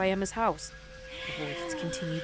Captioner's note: ghostly voice all around